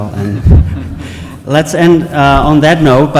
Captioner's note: laughing